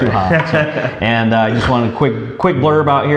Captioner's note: laughs